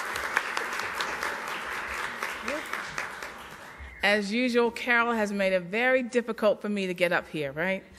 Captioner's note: applause